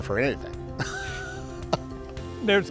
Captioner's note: laughing